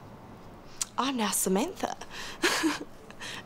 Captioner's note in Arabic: يضحك